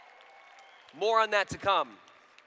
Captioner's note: applause